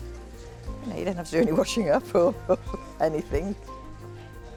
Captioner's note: laughs